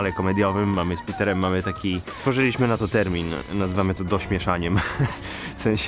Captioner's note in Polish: śmiech